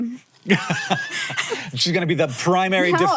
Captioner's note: laughs